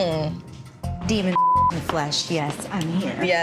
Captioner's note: beep